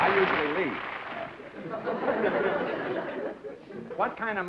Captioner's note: laughter